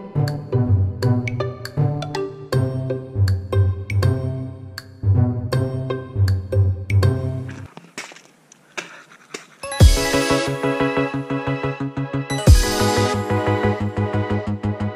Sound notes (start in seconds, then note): 7.5 spitting; 9.7 bright music